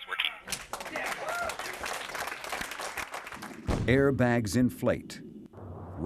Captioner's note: applause